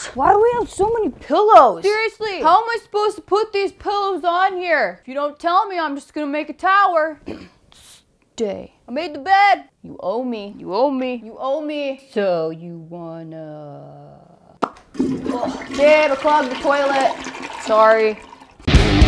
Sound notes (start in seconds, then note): 14.6 pops lips; 14.7 toiler water splashes; 18.6 upbeat rock music